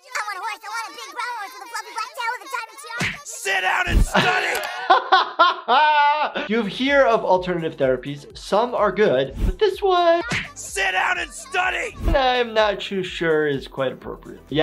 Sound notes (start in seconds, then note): 0.0 children chattering over each other; 3.0 punch landing; 3.6 laughing; 10.3 punch landing